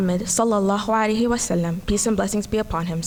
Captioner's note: speaking foreign language